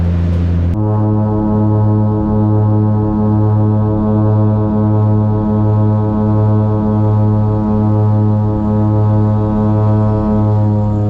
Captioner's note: propeller sound